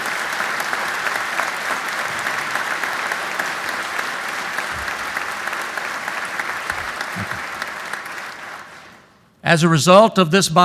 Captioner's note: applause